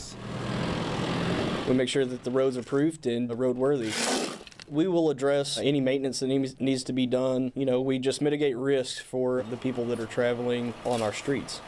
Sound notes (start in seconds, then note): 0.1 sound of construction equipment; 3.5 sound of scraping dirt off of street